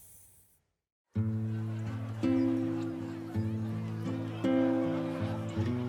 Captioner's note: gentle music; people laughing